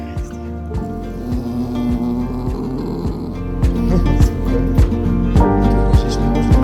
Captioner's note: puppy growl